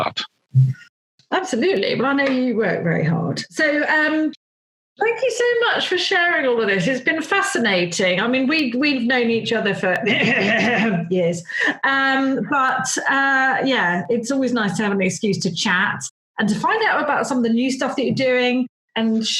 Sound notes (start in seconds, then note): 10.0 coughs!